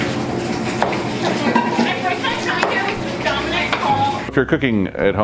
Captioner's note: chopping